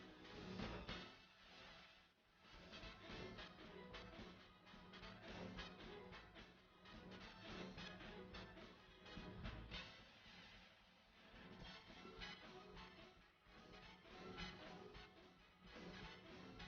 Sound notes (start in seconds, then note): 5.9 applause